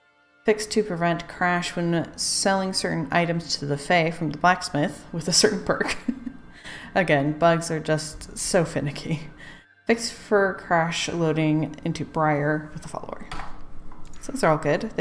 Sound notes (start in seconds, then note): 5.8 laughs